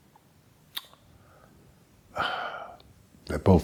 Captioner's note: sigh